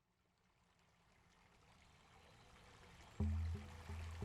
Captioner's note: sound of water in the distance